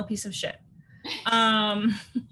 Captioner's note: Cynthia laughs